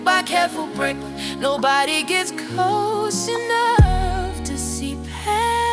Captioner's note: breath